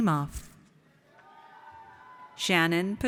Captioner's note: audience cheers